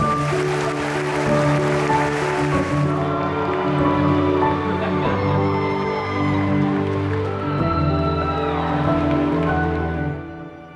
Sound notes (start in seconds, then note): 0.0 audience applauding; 6.9 audience cheering